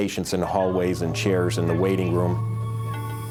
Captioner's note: cicadas buzzing